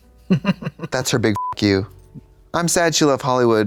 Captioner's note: beep